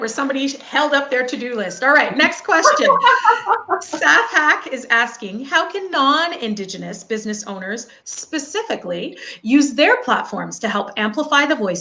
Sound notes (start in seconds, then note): 2.2 laughing